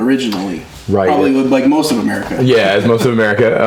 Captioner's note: laughs